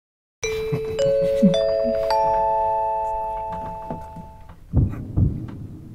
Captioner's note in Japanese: アナウンス音; 効果音 ドックン・ドックン・ドックン・ドックン・ドックン・ドックン・ドックン・ドックン・ドックン・ドックン・ドックン・ドックン・ドックン